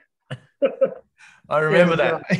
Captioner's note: all laugh